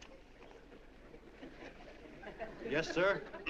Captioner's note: smattering of laughter